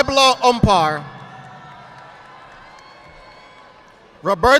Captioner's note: audience applauding